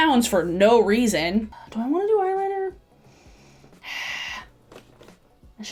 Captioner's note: sighs